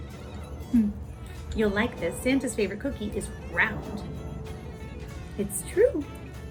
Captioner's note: chuckles